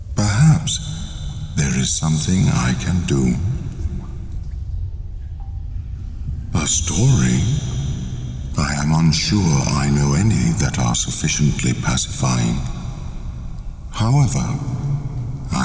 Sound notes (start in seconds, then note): 6.5 cave noises